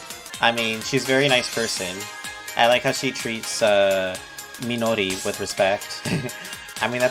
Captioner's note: chuckles